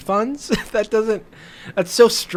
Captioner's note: laughs